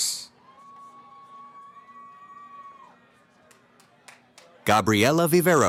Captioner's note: cheering